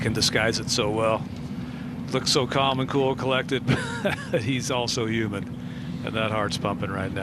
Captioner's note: laughter